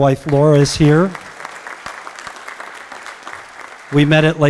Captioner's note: applause